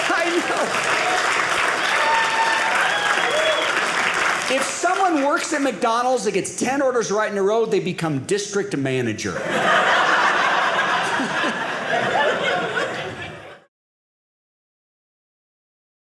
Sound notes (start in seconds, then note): 0.0 audience applauding; 9.4 audience laughing